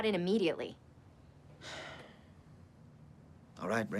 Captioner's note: sighs